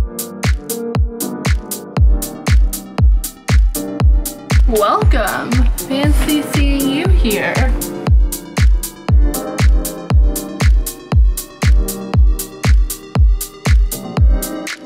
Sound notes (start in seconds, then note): none